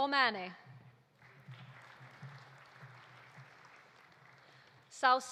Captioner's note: audience applauding